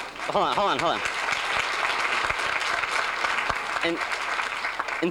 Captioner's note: applause